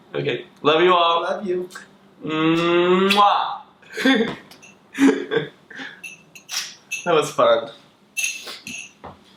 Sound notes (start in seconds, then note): 3.0 both make kissing noise; 3.9 laughs; 4.1 kissing sound